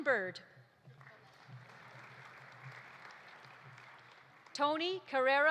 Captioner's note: audience applauding